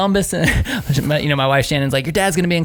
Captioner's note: laughing